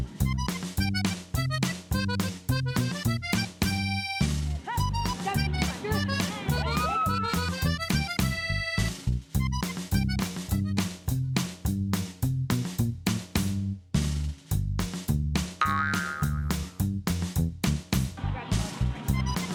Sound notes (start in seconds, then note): 0.0 circus accordion music; 6.8 screams